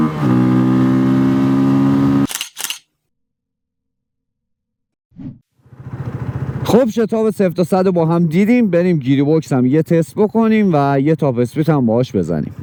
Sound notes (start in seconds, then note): 2.2 camera shutter sound